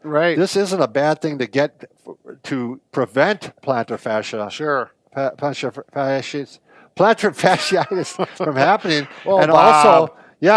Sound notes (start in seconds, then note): 5.4 stutters; 7.4 both laugh